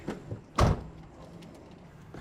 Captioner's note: door closes